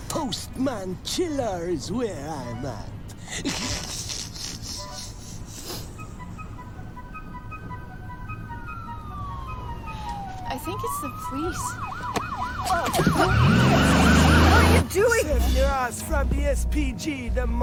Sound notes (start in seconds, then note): 3.2 snickers; 6.2 siren wailing